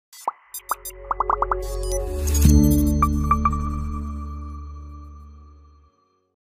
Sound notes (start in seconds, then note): 0.2 bright digital music; 1.1 bubbles popping